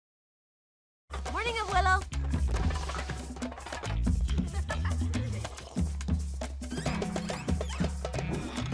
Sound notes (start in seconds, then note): 2.5 children laughing; 2.7 percussive music; 5.8 percussive music